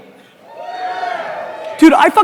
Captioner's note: audience cheers